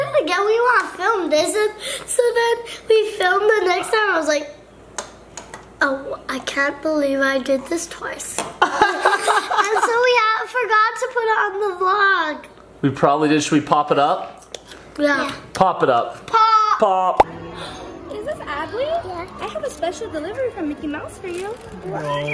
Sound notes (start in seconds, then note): 8.6 laughs